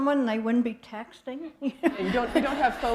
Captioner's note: laughter